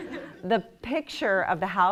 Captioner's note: laughter